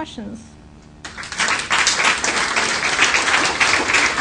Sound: applause

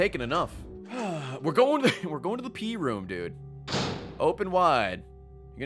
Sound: sighs

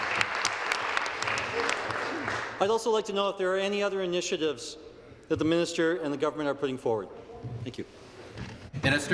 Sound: applause

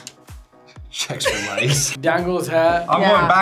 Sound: both laugh

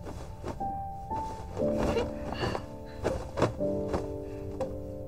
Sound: the sounds of tidying up the quilt

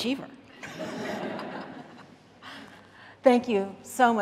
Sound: audience laughing

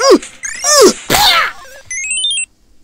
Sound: pumping, grunting in pain; pop, screams; arcade game sound effect

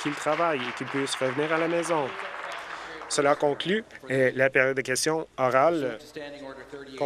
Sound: applause

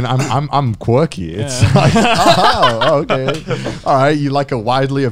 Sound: laugh

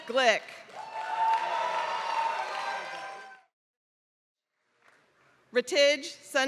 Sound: applause

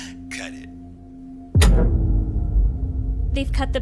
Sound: loud tremor

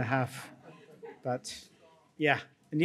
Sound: audience chuckles

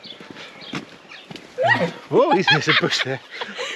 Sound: Lola squeels

